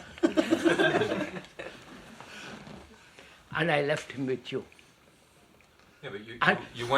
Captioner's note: laughter